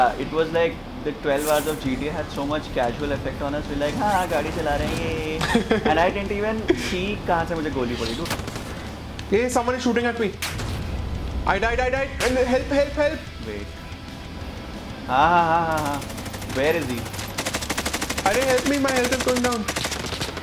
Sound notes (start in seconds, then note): 4.5 speaking foreign language